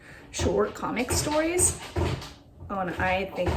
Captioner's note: thumping